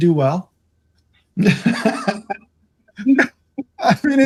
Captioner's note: laughing